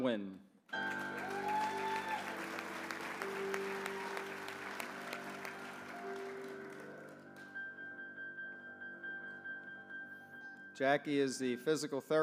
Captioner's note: applause